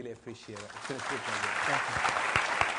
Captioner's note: applause